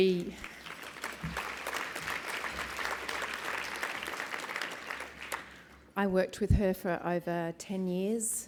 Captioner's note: applause